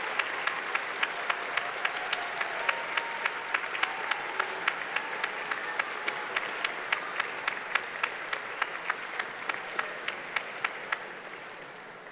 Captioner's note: applause